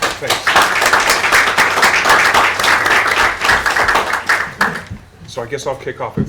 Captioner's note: applause